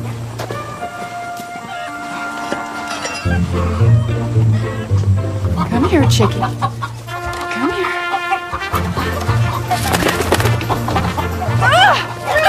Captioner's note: chickens Clucking